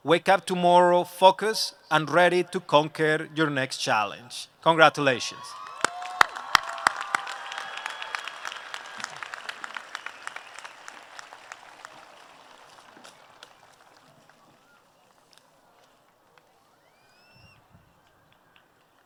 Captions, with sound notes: wake up tomorrow focused and ready to conquer your next challenge Congratulations! [applause]